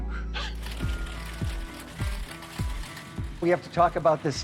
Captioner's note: propellers whirring